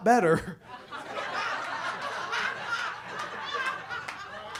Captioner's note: audience laughs